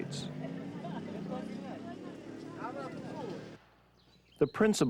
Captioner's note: vehicles humming